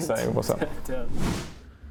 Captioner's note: whoosh